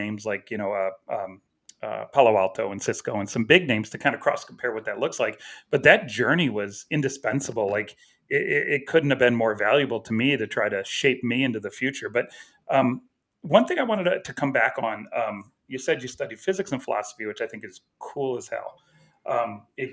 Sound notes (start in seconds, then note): none